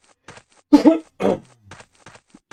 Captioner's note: coughing